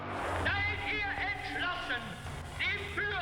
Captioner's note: German dialogue